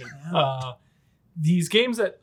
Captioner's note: chuckles